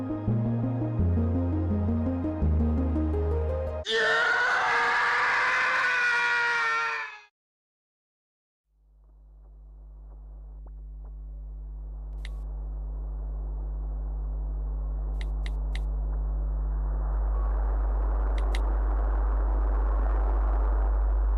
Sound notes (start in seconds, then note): 15.1 clicking; 18.3 clicking